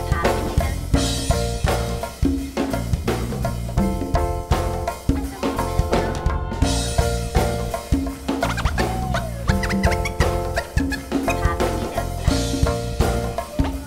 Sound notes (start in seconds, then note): 5.7 crowd cheers